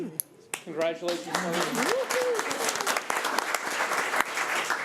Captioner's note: crowd applauding